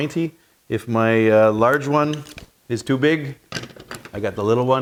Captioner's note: metal clattering